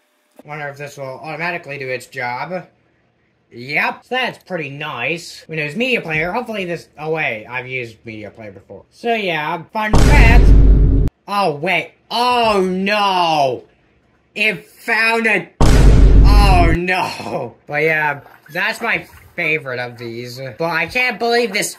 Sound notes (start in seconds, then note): 9.9 boom